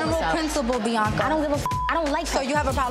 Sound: beep

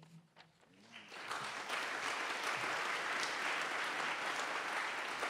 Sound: audience applauding

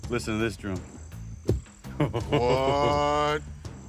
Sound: thump

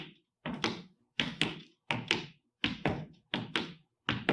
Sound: footsteps tapping

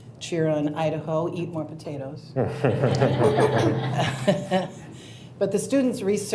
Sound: audience and board chuckle

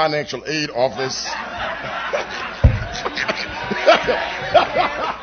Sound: laughter

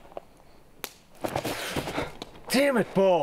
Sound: twig snapping

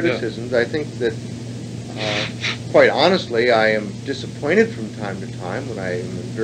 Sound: sniffs

